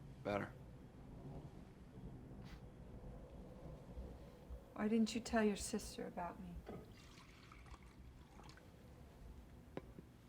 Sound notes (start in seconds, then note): 6.8 pouring water